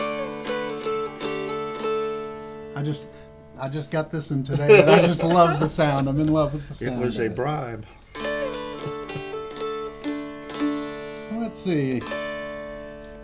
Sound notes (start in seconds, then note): 0.1 dulcimer playing; 4.5 laughter; 9.2 dulcimer playing